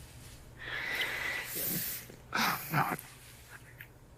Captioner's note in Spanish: Suspiro